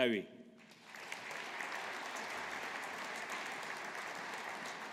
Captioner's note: audience applauding